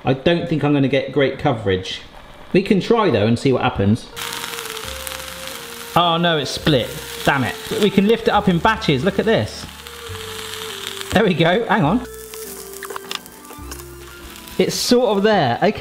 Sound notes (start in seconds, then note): none